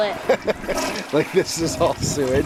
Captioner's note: both laughing; toilet flushing; laughing